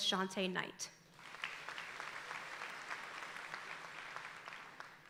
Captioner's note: audience applauding